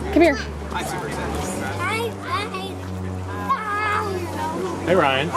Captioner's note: background chatter